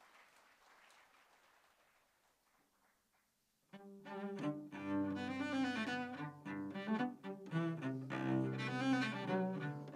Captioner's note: applause